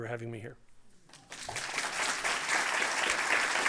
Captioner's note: audience clapping